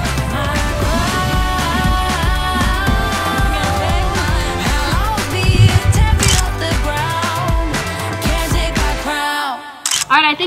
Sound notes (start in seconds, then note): 5.6 camera clicking; 9.8 camera clicking